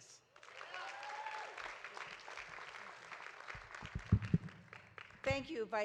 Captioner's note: audience applauding; audience cheering